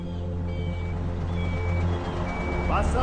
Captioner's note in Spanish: Ruido del vehículo